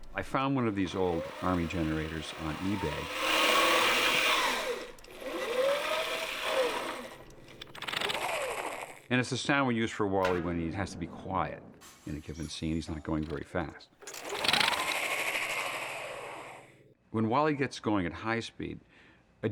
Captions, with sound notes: l found one of these old army generators on eBay, (WHIRRING SOFTLY) and it's the sound we use for WALL-E when he has to be quiet in a given scene. He's not going very fast. (WHIRRING SOFTLY) When WALL-E gets going at high speed,